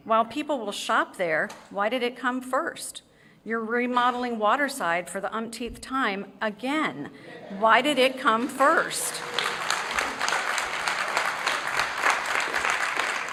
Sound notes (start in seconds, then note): 8.4 applause